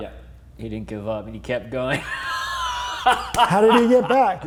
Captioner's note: laughing